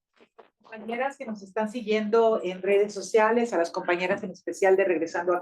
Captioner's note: speaking Spanish